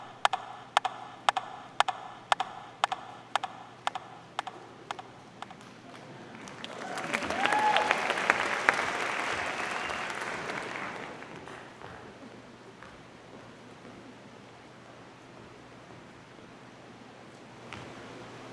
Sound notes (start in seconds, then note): 8.2 audience applauding